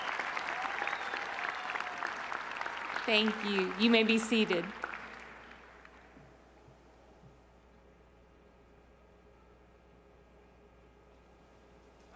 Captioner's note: cheers and applause